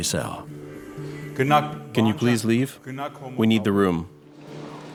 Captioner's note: voiceover